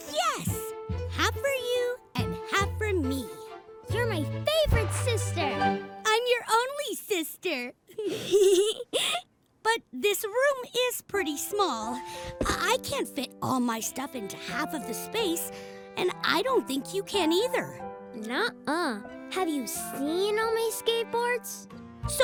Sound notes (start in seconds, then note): 8.0 both laugh